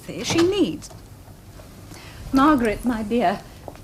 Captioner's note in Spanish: Se abre la puerta